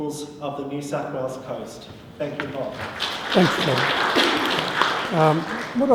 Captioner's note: applause